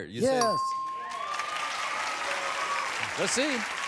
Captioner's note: applause